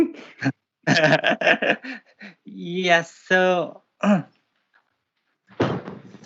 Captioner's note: laughter